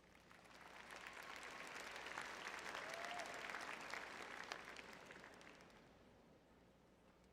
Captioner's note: audience clapping